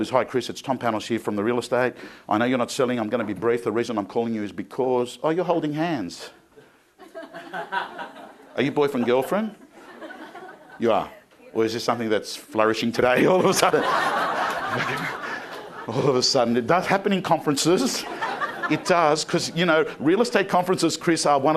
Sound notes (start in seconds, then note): 7.0 crowd laughing; 13.2 crowd laughing